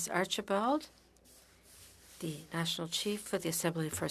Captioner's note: speaking French